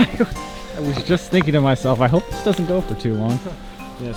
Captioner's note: laughing